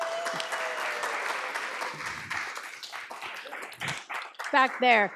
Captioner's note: audience applauds